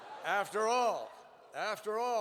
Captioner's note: laughter